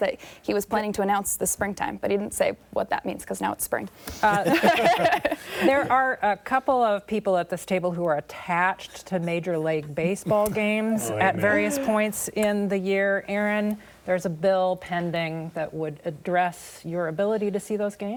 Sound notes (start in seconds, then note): 4.2 laughter